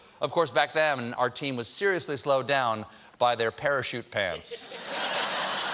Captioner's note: laughter